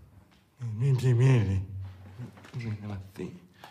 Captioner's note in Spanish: se burla